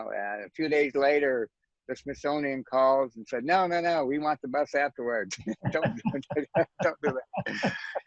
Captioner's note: laughs